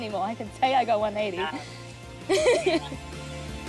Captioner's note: laughs